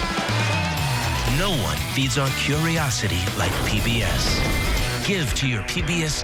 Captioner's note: voiceover